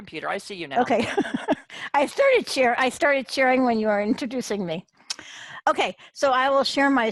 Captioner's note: laughs